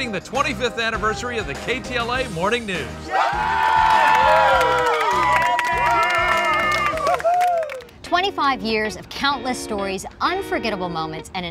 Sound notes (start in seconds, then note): 3.0 people cheering